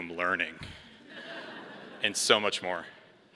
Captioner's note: all laughing